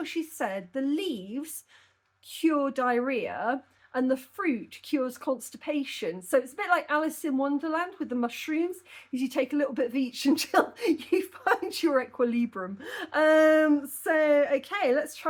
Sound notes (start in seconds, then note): 13.5 laughing